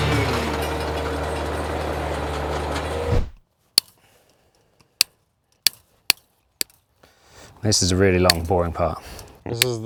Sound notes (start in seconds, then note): 0.3 upbeat guitar music; 1.7 engine running